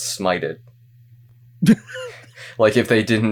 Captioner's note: cackles